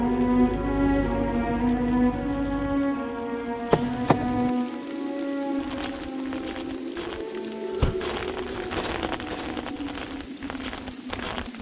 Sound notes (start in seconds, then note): 2.5 car engine shuts off; 3.7 car door opens and closes; 7.8 footsteps crunching